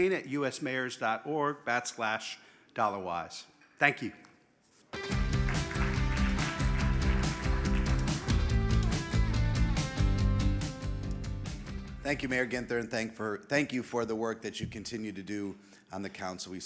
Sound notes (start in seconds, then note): 5.0 upbeat music; 5.0 audience applauding